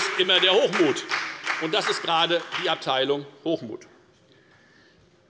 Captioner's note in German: Beifall bei der FDP und der SPD